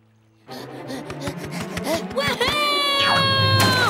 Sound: panting

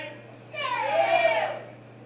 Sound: chanting

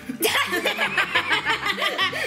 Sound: laughs

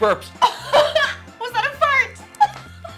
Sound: laughing

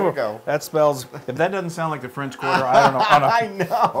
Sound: laugh

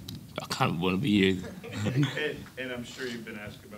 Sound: laughing

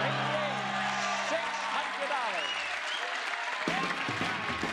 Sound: crowd applauds

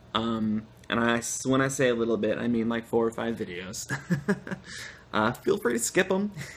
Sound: laughter

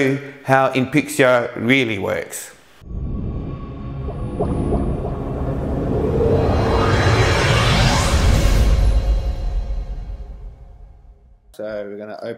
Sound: dramatic sound effects

